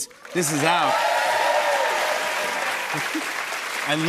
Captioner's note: cheers and applause